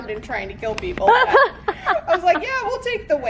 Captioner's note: laughter